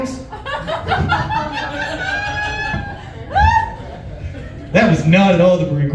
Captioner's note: laughs